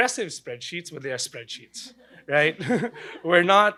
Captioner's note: laughs